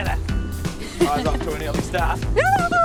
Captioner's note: laughs